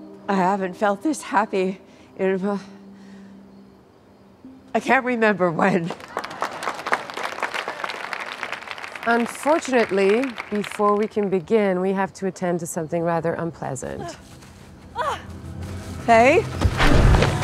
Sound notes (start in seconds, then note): 5.8 applause